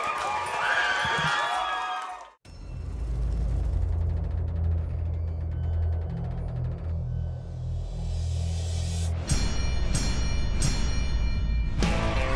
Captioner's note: applause; bell rings